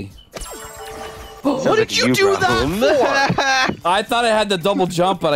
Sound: laughter

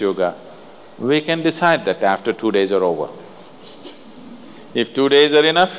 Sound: laughs

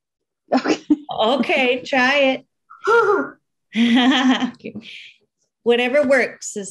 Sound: giggling

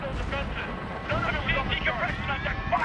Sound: radio

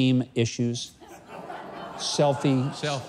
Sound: laughs

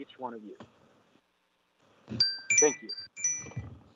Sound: chime

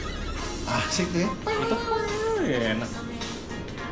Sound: imitating guitar/synth screech

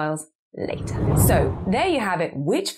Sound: screen whooshes

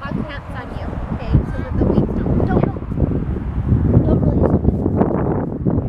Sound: wind muffles mic

